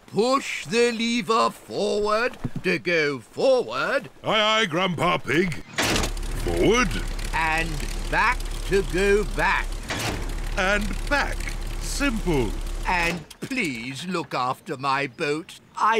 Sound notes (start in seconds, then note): 5.6 lever clunks; 9.2 lever clunks